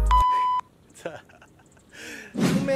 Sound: laughs

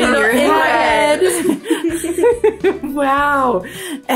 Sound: all laughing

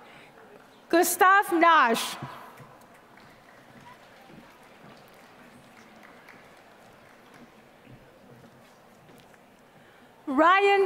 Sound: applause

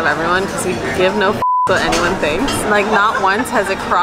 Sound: beep

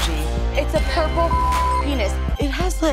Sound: beep

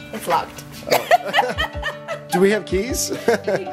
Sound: laugh

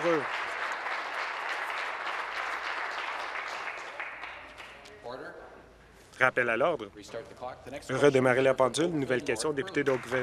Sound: applause

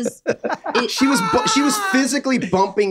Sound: group laughs

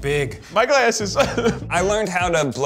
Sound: laughs

